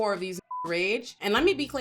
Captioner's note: beep